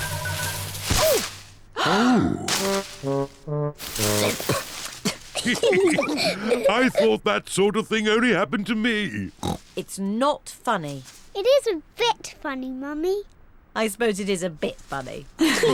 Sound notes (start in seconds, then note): 3.8 all giggling; 4.1 coughs